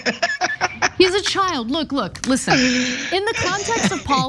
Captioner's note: laugh